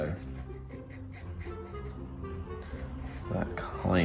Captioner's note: pencil scribbling